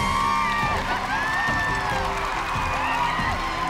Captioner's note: cheering